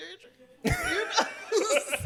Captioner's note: laughter